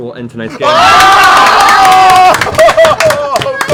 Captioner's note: yelling